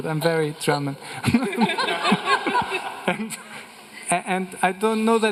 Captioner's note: everyone laughing